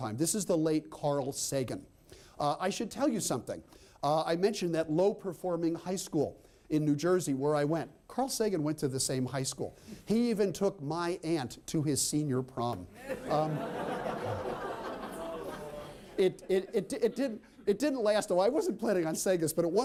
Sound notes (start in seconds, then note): 12.9 laughter